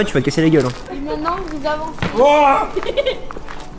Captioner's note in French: rires